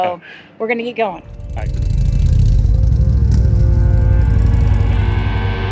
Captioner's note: laughs; motorcycle engine revving